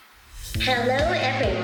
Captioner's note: robot talking